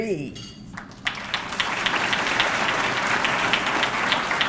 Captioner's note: audience clapping